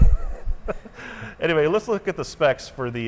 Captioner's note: laughing